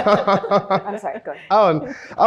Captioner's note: laughs